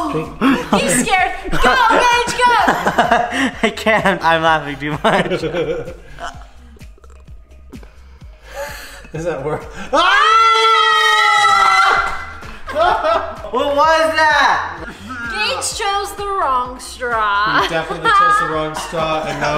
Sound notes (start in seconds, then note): 2.4 laughing; 5.0 giggling; 10.1 all yelling